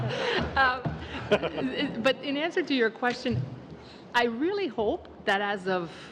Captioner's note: laughter